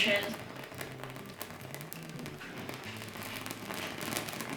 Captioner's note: leaf crackling